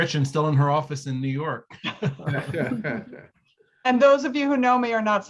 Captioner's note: laughs